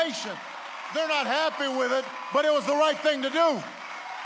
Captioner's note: applause